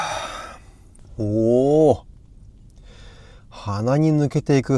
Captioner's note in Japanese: ため息